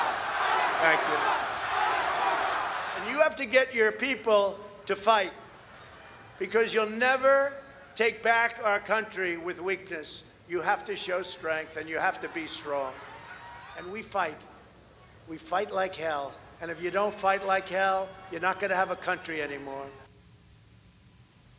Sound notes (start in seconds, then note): 0.0 cheers and applause; 1.7 shouting